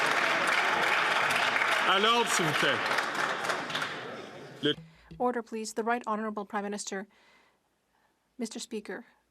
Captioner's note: some Applause